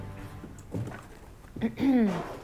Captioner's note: clears throat